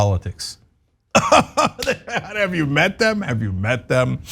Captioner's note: laugh